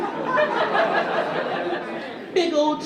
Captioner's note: audience laughing